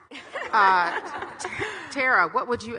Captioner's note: audience laughing